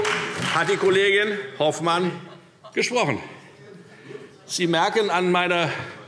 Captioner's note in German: Beifall Freie Demokraten und SPD